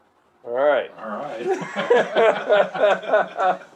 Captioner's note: laughter